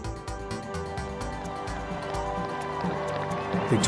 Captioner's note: cheers and applause